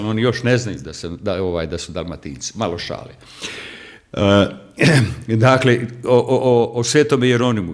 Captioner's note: coughs